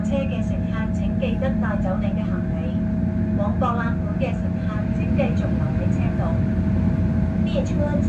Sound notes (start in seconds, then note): 0.0 Cantonese; 6.9 Mandarin